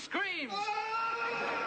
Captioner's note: screaming